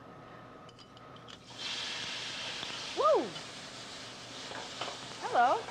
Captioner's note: oil sizzling